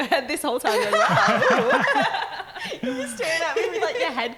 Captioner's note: laughing